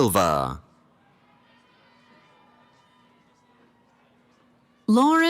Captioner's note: cheering